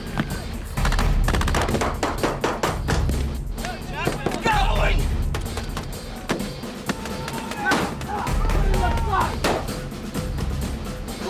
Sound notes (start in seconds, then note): 4.6 voiceover; 5.6 gunfire and shouting